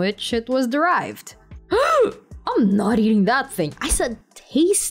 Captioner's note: shocked gasp